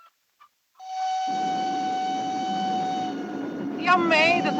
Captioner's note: the whistle of the train